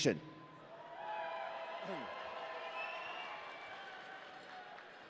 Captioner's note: audience cheering